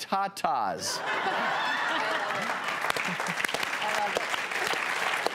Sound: laughter and applause

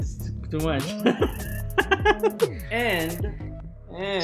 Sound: laughs

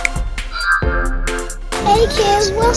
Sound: magical chiming

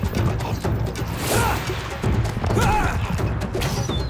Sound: grunting

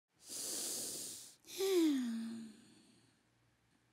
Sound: sighs

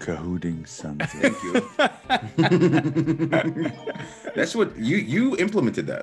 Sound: laugh

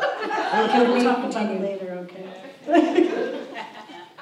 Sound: audience laughs; laughs

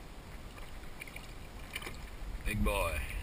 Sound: splash

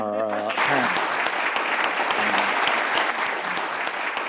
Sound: applauding

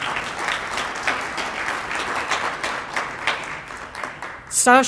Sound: applause

